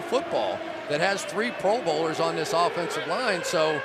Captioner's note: siren blaring